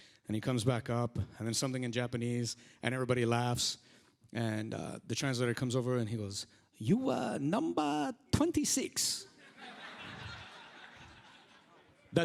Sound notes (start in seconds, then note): 0.0 whispers; 6.8 uses Japanese accent; 9.4 audience laughs